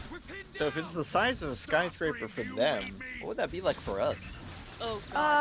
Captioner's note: Megatron: Starscream, do you read me?